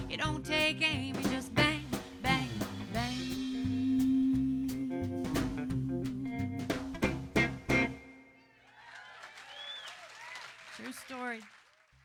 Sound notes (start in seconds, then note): 6.8 cheering and clapping